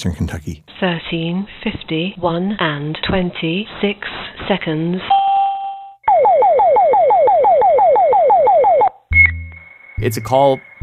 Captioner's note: computer sounds